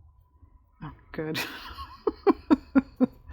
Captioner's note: laughs